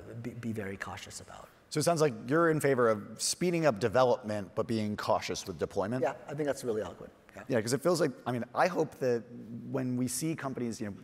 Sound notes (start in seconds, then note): 6.9 speaking faintly